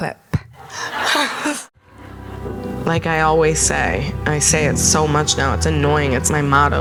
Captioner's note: recording plays